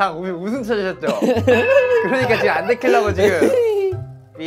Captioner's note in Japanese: 思わず笑いを我慢